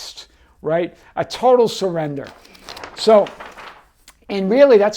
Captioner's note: page turning